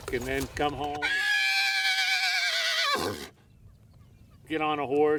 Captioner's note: horse neighing